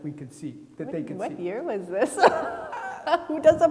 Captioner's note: laughs